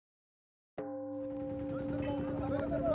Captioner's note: gong sounds